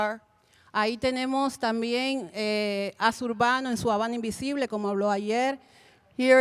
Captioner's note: Spanish language 00:43:58